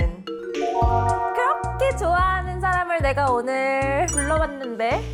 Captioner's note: mysterious sound effect